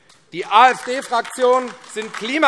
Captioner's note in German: Beifall AfD